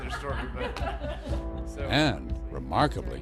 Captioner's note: laughter